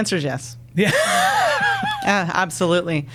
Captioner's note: laughing